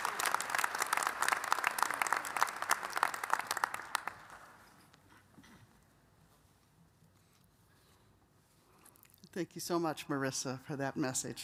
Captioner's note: applause